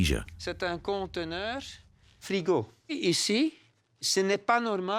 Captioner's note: French spoken audio